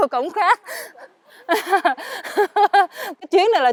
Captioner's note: laughter